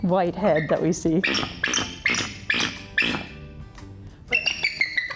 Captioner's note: eagle whistling